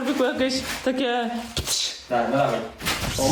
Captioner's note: sound effect